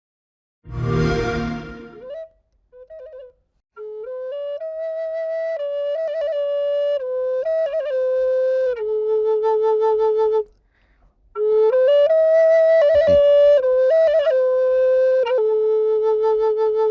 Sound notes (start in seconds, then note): 0.6 xbox sound